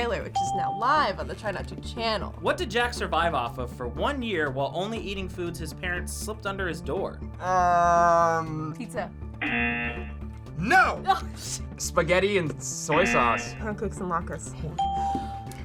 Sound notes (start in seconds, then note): 9.4 buzzer rings; 12.9 buzzer rings; 13.0 bell rings